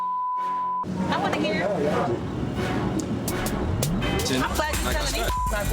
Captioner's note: beeps